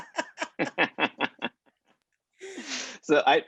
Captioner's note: laughter